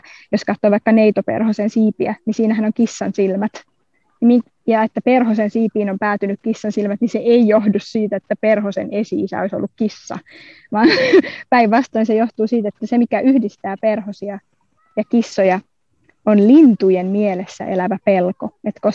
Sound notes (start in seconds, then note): 10.3 laughs